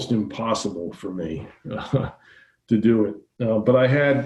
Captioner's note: giggling